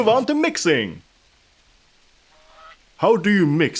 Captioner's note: awkward silence